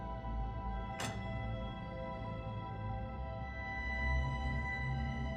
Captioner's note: prototype clicks